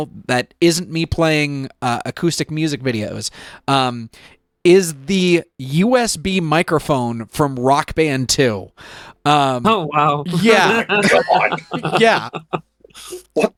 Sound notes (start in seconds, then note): 10.3 laughing